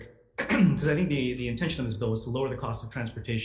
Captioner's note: clears throat